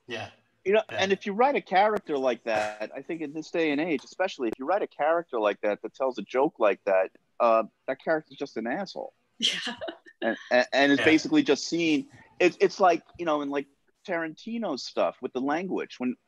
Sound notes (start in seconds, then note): 9.4 laughs